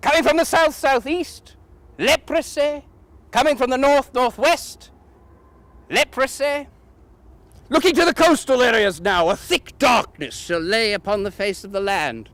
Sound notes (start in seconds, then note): none